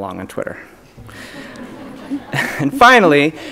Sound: audience laughs

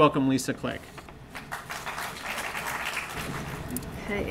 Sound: applause

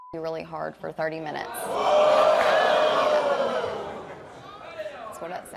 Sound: sounds of surprise from audience and jeers

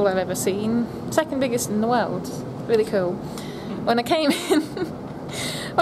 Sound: both laugh

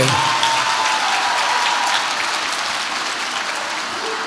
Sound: audience applauds

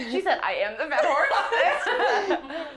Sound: laughter

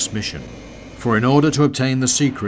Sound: jet whirring

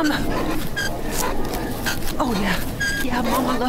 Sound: metal squeaking

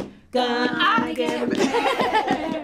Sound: laughs

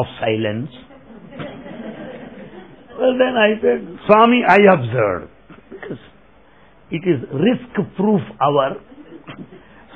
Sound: laughter

